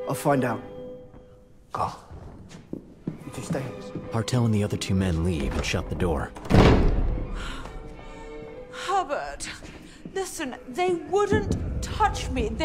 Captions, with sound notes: I'll find out. Go. Hartl and the other two men leave and shut the door. [ Door slams ] [ Sighs ] Herbert! Listen, they wouldn't touch me.